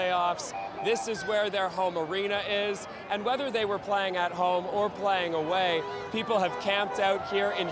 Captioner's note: cheering